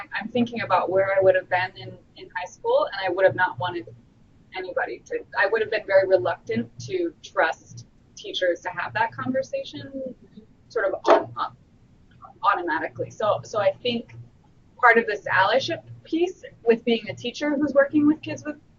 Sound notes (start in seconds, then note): none